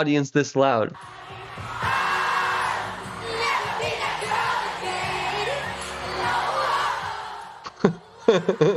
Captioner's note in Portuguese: mais gritaria da plateia